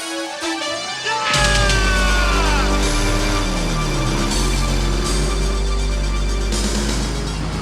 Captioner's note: Miguel shouting; motorcycle rumbling